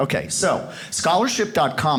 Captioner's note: none